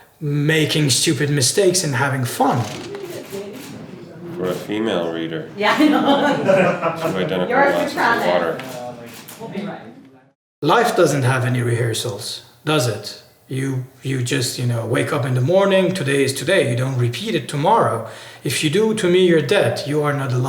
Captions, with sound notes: making stupid mistakes and having fun. For a female reader. Yeah. [Laughter] Life doesn't have any rehearsals, does it? You just wake up in the morning, today is today, you don't repeat it tomorrow. If you do, to me, you're dead.